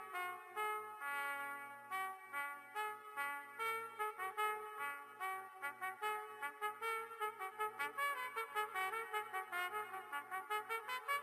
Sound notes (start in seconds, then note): none